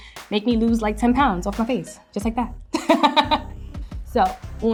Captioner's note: laughs